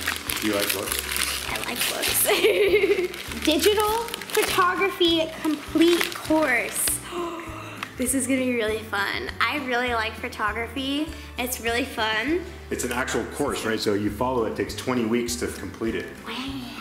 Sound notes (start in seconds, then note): 2.2 laughs; 7.0 gasp